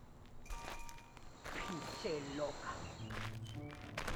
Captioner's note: mumbles in foreign language